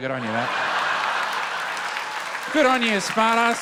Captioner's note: laughter